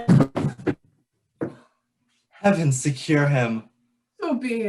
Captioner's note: gasping